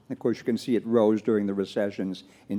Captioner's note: none